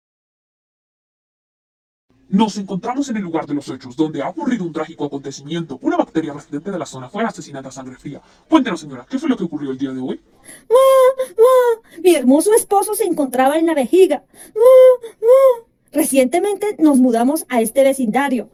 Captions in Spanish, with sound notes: Nos encontramos en el lugar de los hechos donde ha ocurrido un trágico acontecimiento, una bacteria residente de la zona fue asesinada a sangre fría Cuéntenos señora que fue lo que ocurrió el día de hoy *llorando* mi hermoso esposo se encontraba en la vejiga Recientemente nos mudamos a este vecindario